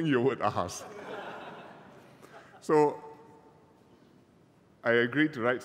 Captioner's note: laughter